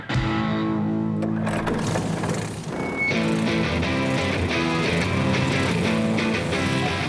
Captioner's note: engines starting